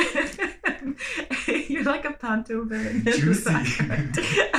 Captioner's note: laughter